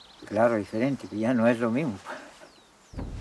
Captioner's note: speaking Spanish